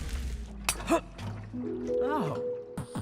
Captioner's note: grunting